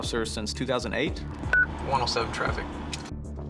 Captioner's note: radio beeps